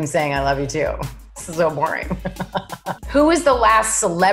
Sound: laughs

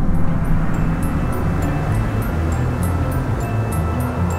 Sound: wind blowing, music

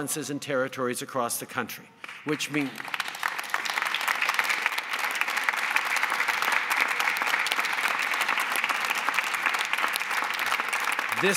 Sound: applause

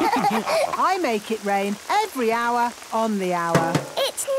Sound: all laughing; taps

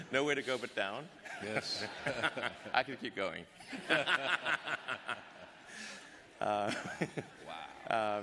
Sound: laughter

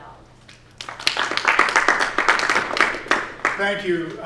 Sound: applause

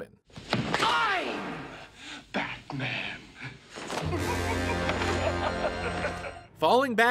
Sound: maniacal laugh

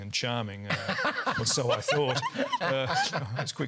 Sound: laughter

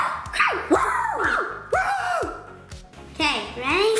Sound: both shouting

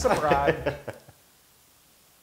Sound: laugh

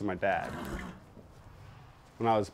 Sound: horse whinnies

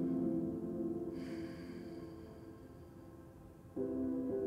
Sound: inhales; exhales

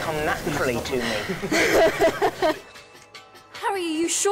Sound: watson & grint laughing

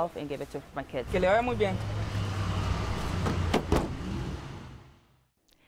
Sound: speaking in Spanish

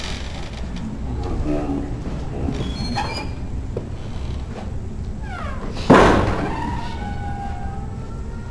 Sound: door creaks slowly

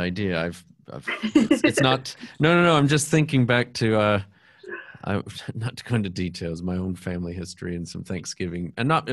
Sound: laughter

